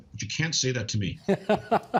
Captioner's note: laughs